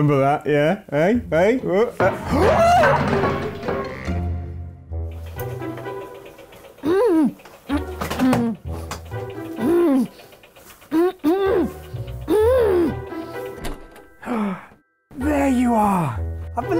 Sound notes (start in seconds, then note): 2.3 screams; 6.0 muffled grunts